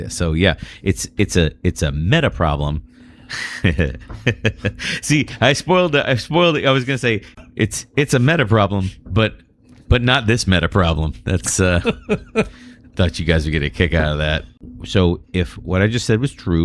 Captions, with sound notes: So yeah, it's, it's a, it's a meta problem [UH] See, I spoiled, spoiled. was say it's it's meta problem. But but not this meta problem. That's a thought guys to kick out that. So if what I just said was true,